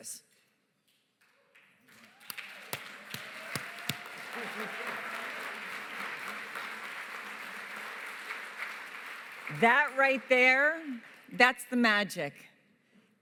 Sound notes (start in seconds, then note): 1.7 applause